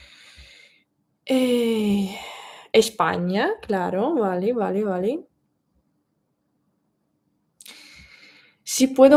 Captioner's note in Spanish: suspiro